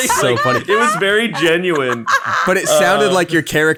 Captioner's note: laughing loudly